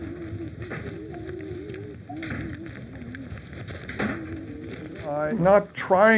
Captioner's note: eerie murmuring